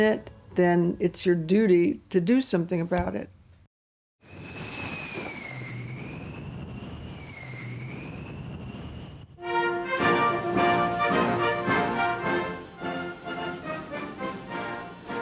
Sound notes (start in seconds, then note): 4.3 plane engine roars; 9.4 dramatic music